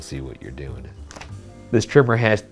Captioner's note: paper rustling